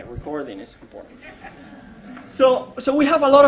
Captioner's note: laughter